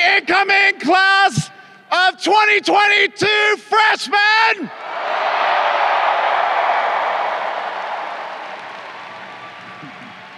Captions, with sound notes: The incoming class of 2022 freshmen. (crowd cheering)